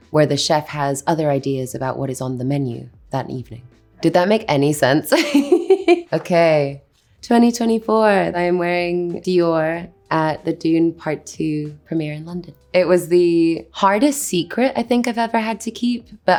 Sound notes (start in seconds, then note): 5.1 Anya laughs